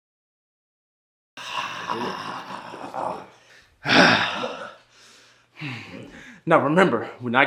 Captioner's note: Jamie snarling drowns out Malik